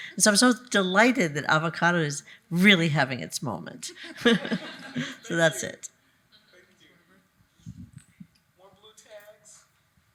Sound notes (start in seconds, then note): 4.0 attendees laughing